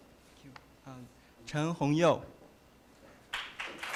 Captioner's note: applause